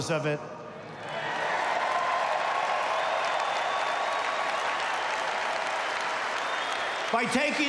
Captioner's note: applause